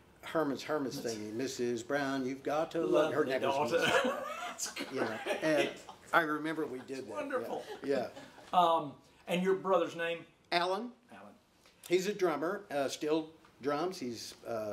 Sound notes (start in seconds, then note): 1.3 singing; 5.2 laughing